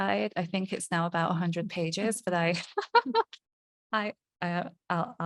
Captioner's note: laughing